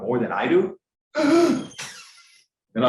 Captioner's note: lecturer gasping